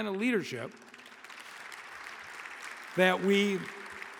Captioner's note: audience applauding